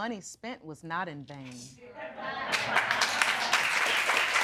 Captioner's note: audience applauding